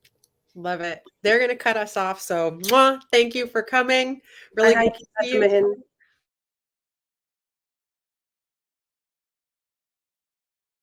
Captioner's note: kiss sound